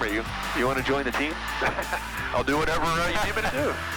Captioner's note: laughs; laughing